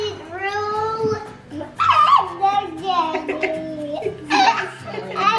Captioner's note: giggles and babbles